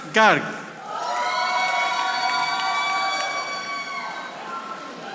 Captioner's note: audience applauding